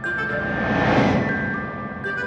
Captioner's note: wind whooshes; bright music